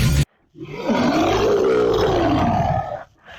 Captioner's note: monster Roar